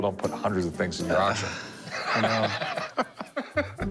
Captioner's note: sighs